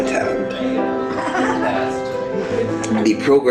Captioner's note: audience laughing